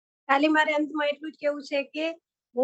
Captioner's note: non-english speech